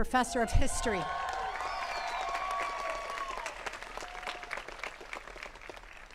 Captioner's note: attendees cheering and clapping